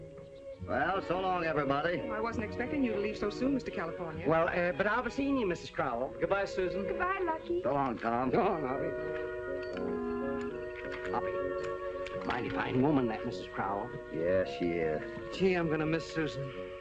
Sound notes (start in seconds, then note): none